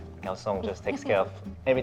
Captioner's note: chuckles